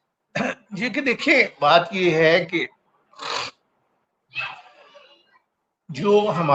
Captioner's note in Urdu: گلا صاف کرتا ہے; خراٹے